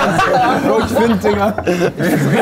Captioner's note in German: Stimmengewirr